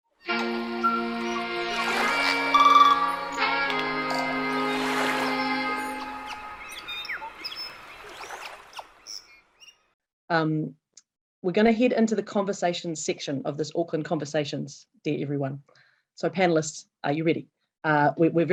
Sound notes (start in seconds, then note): 0.2 cheerful music; 4.6 water flowing; 6.5 birds chirping